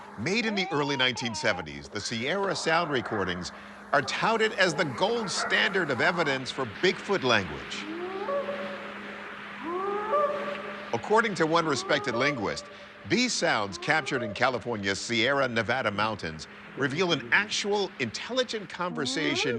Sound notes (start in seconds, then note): 9.5 short howls